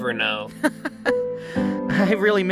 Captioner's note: paintbrush laughs